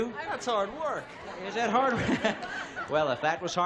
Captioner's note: laughs